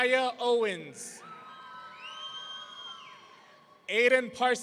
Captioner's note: audience cheering